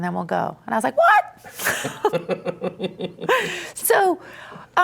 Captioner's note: both laughing